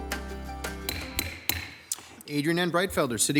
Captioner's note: gavel striking